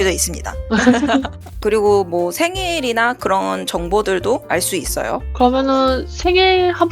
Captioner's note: laughs in disappointment